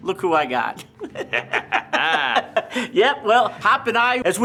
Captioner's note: chuckling